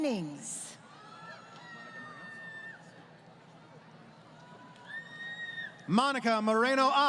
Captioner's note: crowd Cheering